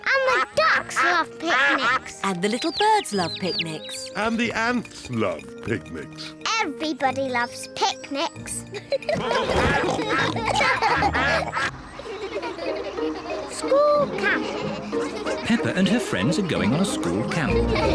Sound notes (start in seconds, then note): 8.7 all giggle; 9.2 quacking; 11.9 all giggling; 17.5 all giggle